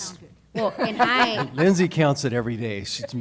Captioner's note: laughter